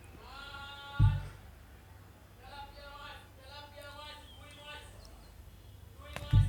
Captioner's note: fish hawker crying